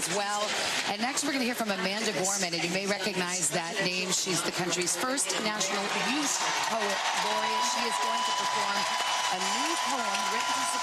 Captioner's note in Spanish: Aplausos